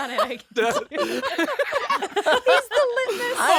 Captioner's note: all laughing